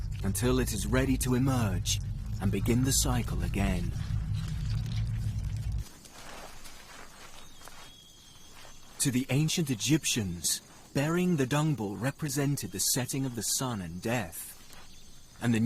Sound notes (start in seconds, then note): 6.0 insects buzzing; 7.6 birds chirping